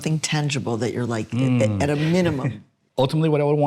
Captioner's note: chuckles